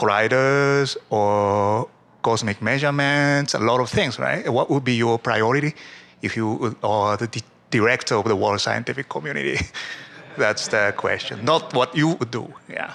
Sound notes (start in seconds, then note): 9.5 laughter